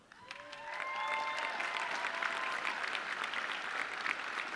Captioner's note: audience cheering